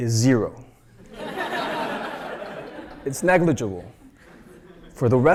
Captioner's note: laugh